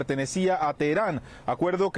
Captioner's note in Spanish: HABLAN EN INGLéS